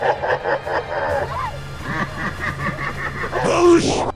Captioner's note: Gryusumeo lets out evil laughter